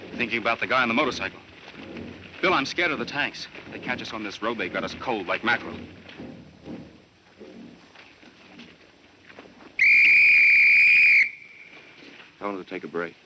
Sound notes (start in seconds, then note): 9.8 blowing whistle